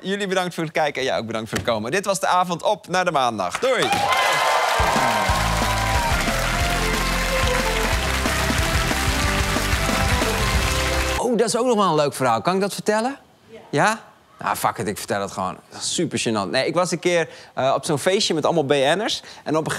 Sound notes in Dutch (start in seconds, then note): 3.6 applaus en gejuich